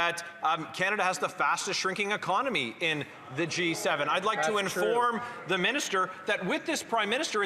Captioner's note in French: voix de l'interprète